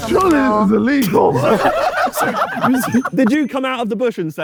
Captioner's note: group laughing